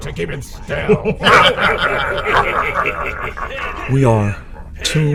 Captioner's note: Klingon laughter, chants of "pin him"